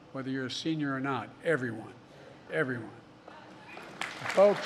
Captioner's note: applause